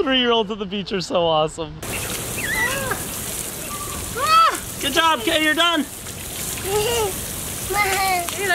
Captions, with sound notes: Three year olds at the beach are so awesome. (shower water running) Good job kid you are done. (laughing)